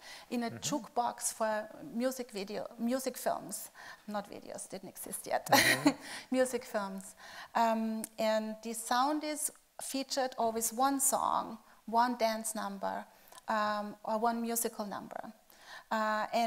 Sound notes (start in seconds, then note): 5.5 laughing